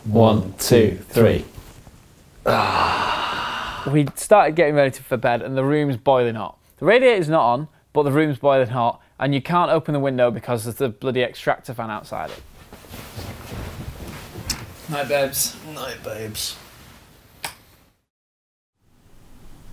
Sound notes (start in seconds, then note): 2.4 sigh